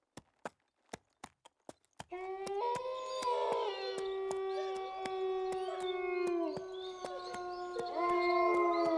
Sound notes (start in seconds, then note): 2.1 wolves howl and whimper